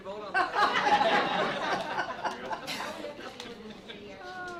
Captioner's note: laughter